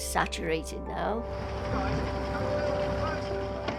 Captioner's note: crew chattering; water trickles; pensive music